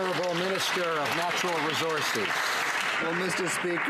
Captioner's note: some Applause